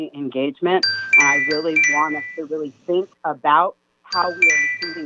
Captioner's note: chime